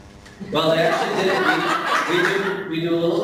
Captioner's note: laughing